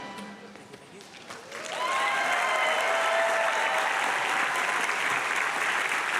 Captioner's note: audience applauding and cheering